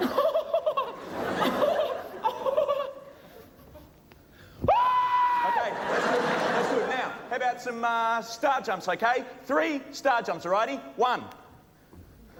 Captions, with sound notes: *High-pitched giggling* *Loud scream* Okay, that’s good. That’s good. Now, how ‘bout some, ah, star jumps? Okay? Three star jumps, alrighty? One!